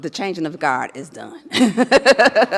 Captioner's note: laughs